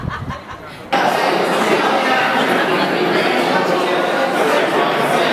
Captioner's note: crowd chatting; laughs